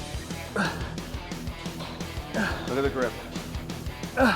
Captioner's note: Ethan grunting